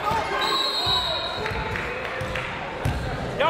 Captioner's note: whistle